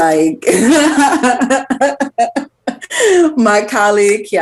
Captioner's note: laughs